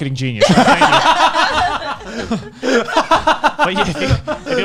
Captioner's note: laughing